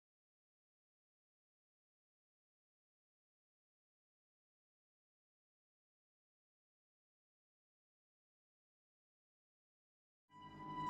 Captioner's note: silence but scary